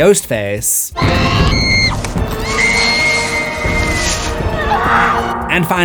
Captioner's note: screams